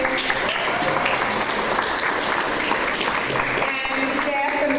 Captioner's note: audience applause